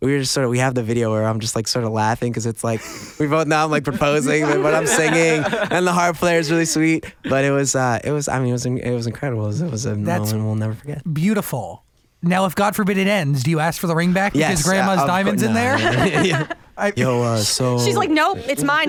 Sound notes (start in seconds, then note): 14.0 laughs